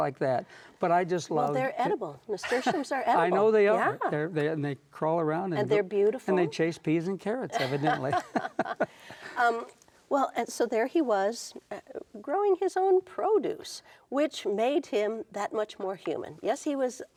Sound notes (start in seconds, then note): 7.6 chuckles